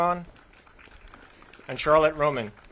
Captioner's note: audience claps